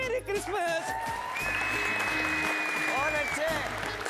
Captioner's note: applause and cheer